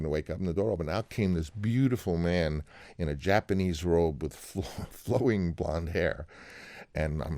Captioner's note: laughter